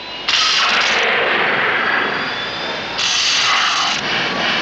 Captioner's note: eletricidade crepitante